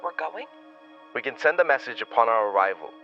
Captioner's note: commanding